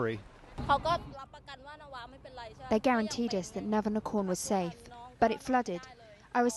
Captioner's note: through translator